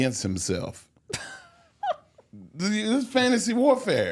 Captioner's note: hostess laughs